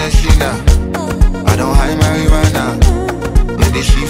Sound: hmmm

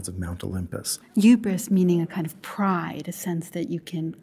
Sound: voiceover

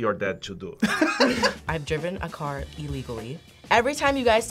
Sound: React laughs

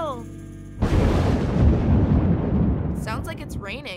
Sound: thunder

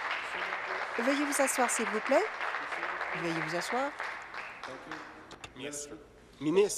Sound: applause

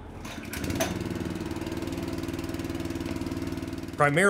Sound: machine whirring

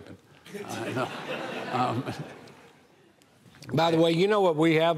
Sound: audience laughing

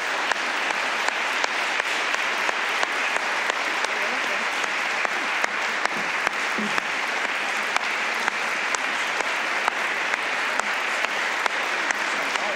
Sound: applause

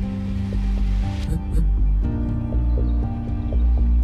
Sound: quick phone vibration

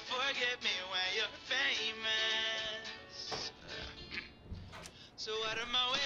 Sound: footsteps approach at door

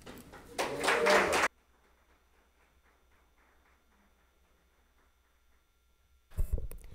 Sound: audience applauds; people cheer

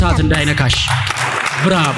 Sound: applause

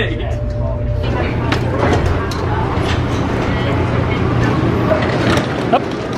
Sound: commuters chatting indistinctly

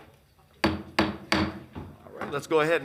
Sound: gavel pounds

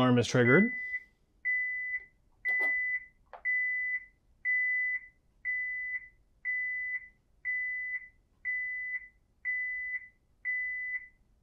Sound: alarm beeping

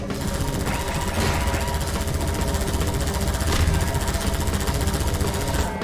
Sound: helicopter alarm blaring

